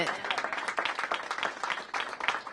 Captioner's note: applause